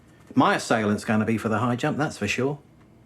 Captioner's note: none